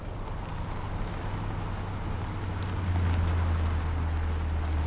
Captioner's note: sign creaking; Humvee rumbling